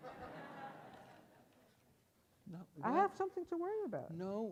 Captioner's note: audience laughs